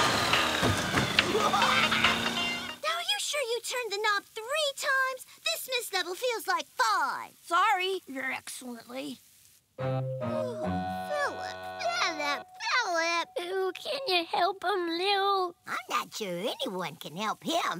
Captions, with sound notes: [laughing] Now, are you sure you turned the knob three times? This mist level feels like five. Sorry, your excellently. Ooh, Phillip, Phillip, Phillip. Ooh, can ya help him, Lil? I'm not sure anyone can help him.